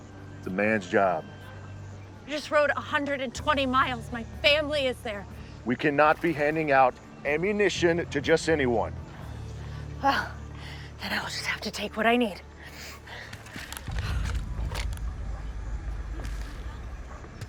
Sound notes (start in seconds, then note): 14.2 cocks gun; 14.6 guns cocking